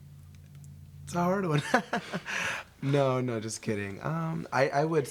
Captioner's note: laughs